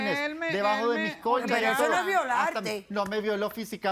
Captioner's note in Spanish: Hablan al unísono